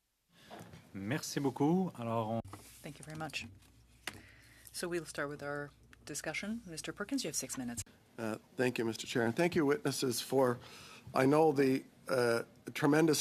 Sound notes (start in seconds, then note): 7.2 speaking french